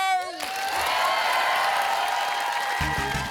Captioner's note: cheering and applause